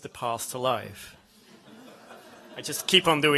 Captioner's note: laughter